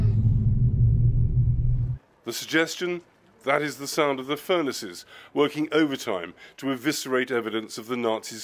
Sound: rumbling

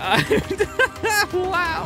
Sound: laughing

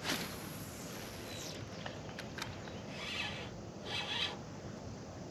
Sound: fishing line buzzing

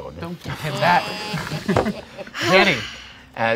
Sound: groaning and laughing

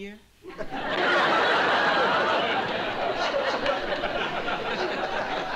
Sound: laughter

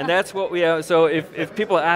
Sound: all laugh

